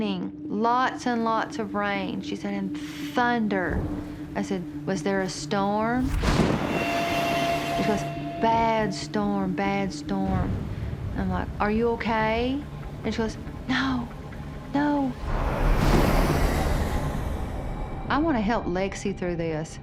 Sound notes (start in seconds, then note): 6.0 lightning cracks; 15.0 engine whines